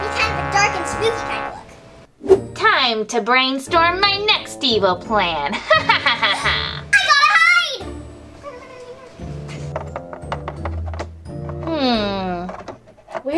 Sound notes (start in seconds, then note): 5.6 Romeo laughing; 5.7 assistant gasping; 9.3 shoes tapping